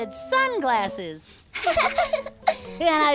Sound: giggle

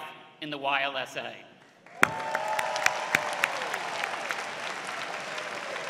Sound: applause

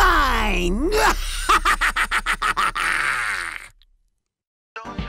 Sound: maniacal laugh

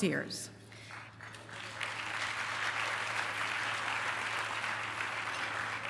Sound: applause

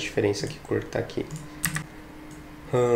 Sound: click

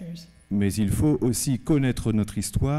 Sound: speaking french

